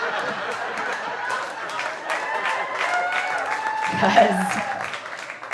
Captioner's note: audience applauding and cheering